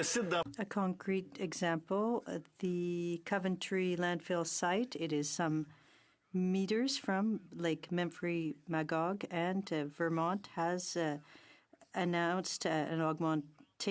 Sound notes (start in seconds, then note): 3.2 speaking French